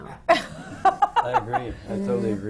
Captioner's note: laughs